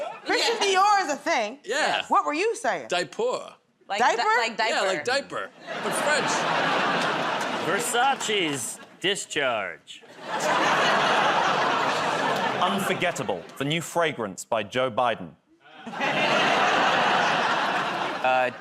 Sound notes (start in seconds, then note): 10.2 laughter, groaning; 15.7 laughter